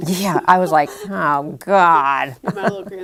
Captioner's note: laughter